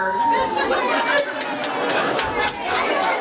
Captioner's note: cheering